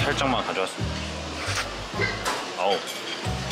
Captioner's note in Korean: 손에 묻은 레몬즙 흡입하는 사운드